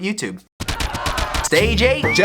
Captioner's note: angry punching